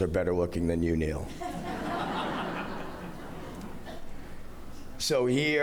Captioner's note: laughter